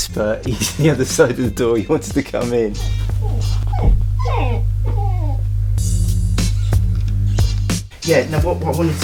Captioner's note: dog whining